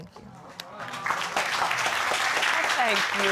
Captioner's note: audience applauding